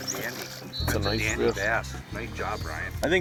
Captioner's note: voiceover